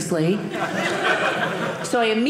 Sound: audience laughing

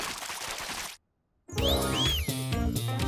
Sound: whistling

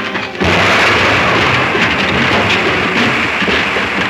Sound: river thunders

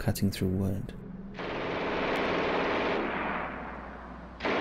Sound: gun firing

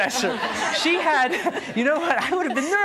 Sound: audience laughs

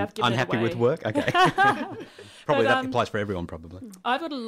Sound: laughter

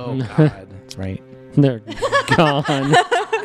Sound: laughing; laughter

